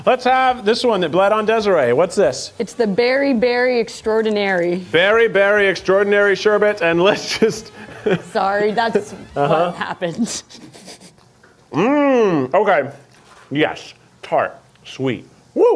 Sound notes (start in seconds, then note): 7.1 laughs